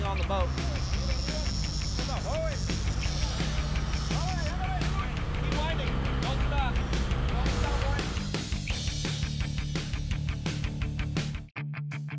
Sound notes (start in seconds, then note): 0.0 reel cranking; 1.6 background chatter